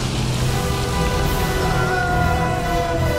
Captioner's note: sailors yell